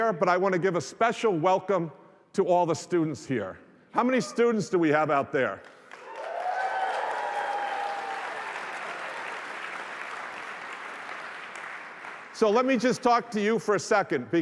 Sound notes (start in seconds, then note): 5.6 applause